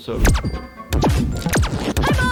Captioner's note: gun warping